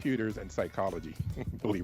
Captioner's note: chuckles